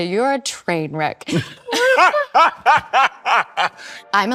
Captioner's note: both laugh; gentle music